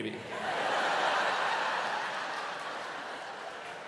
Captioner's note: audience laughing